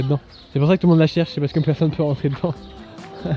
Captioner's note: laughs